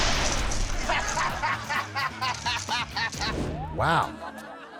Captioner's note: man laughing